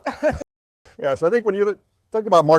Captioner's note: laughing